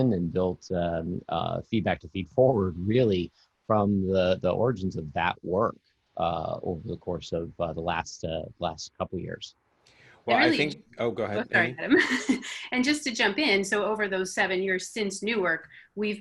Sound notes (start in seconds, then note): 11.0 laughs